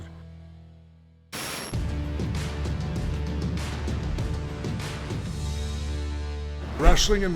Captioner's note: static crackling; compelling music